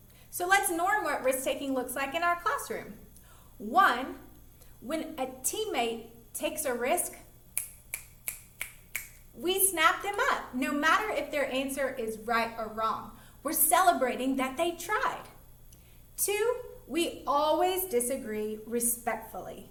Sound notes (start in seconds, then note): 7.6 snapping